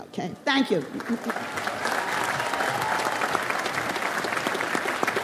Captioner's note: audience applauds